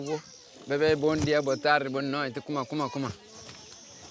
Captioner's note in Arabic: صوت Bijago منطوق